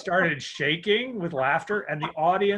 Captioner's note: chuckles